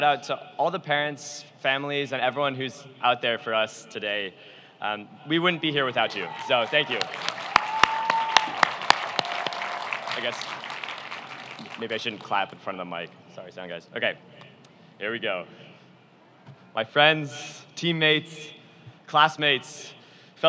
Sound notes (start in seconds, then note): 5.8 cheering